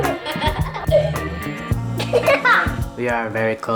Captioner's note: giggling